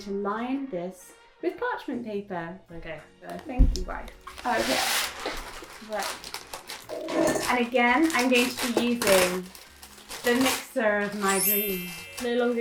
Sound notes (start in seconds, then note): 5.4 paper rustling